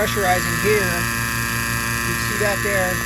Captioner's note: pump buzzing